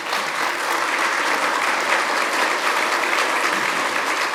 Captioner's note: audience applauding